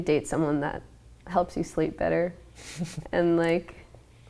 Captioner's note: laughing